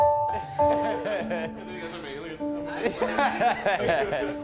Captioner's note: group laughing